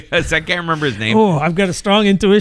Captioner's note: uh